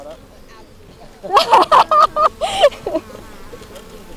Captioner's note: laughs